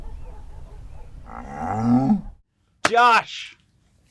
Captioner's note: dog barking; cow mooing